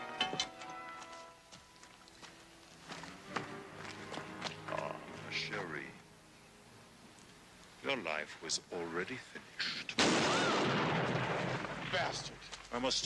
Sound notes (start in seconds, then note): 10.0 gun firing